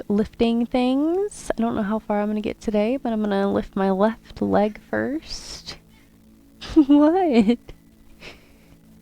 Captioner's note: laughs